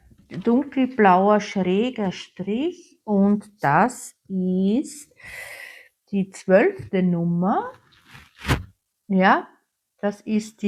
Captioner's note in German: japst